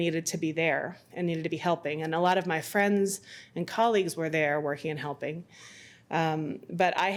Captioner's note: none